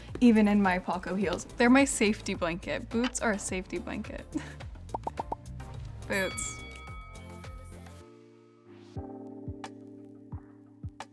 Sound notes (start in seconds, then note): 6.1 boxing bell dings; 8.5 chill music